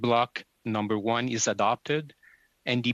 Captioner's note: speaking French